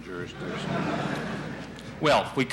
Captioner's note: laughter in the courtroom